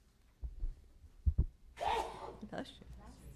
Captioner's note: sneezes